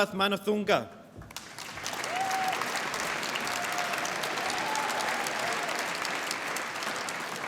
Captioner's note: applause